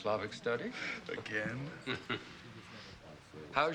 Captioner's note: chuckles